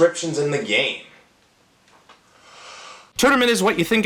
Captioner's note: deep breath